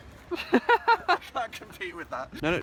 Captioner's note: laughs